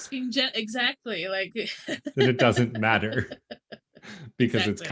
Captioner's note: laughs